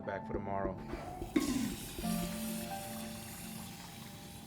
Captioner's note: toilet flushing